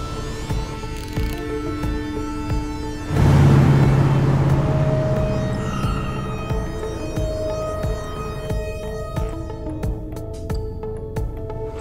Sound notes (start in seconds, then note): 1.0 winder clicking; 3.0 engine revving; 5.3 tires screeching; 9.2 soft jingle